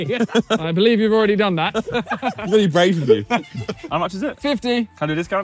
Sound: both laughing

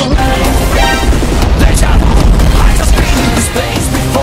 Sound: explosion sounds

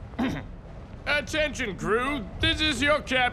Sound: clearing throat

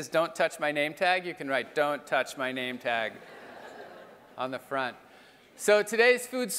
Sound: laugh

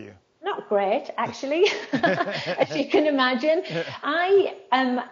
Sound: laughs

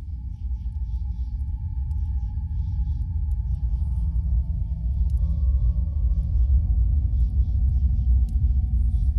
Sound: spooky ambient noise

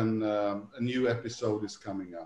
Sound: laughs

